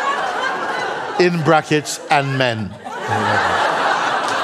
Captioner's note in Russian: взрыв смеха